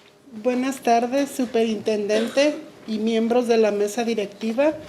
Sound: speaking Spanish

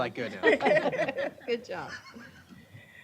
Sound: laughter

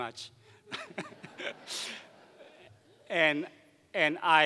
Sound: laughing

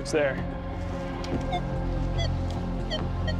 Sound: beeping; beeping and warbling

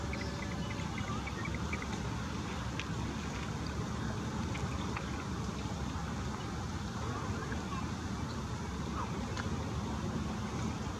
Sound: birds chirping

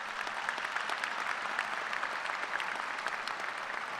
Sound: applause

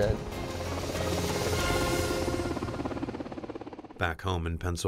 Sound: helicopter blades whirring

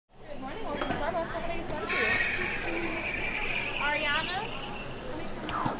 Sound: coffee shop sounds

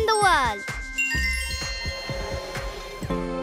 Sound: chiming

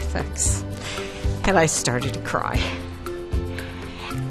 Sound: voice breaking

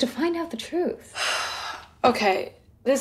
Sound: sighs

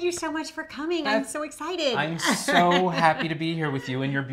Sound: laughs

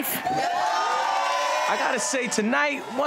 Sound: crowd cheering

